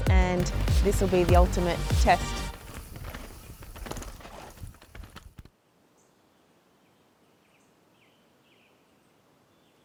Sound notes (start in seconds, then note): 3.0 bikes zooming; 6.8 birds chirping